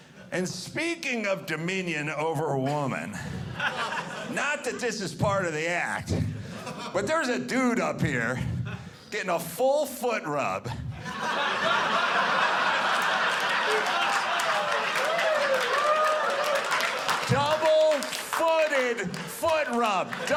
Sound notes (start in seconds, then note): 10.8 audience laughing; 13.8 audience clapping